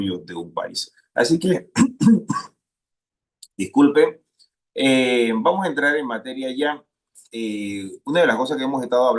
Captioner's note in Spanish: carraspeo